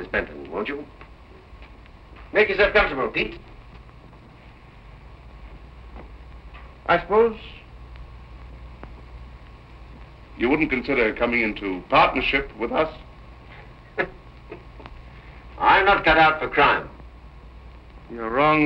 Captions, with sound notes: Sit down, Miss Benton, won't you? Make yourself comfortable, Pete. I suppose you wouldn't consider coming into partnership with us? [laughing] I'm not cut out for crime.